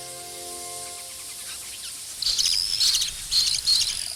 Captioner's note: birds calling